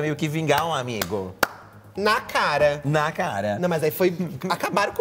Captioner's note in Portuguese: bate palmas